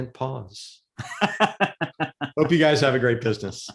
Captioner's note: laughing